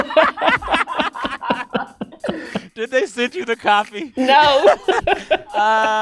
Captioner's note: laughter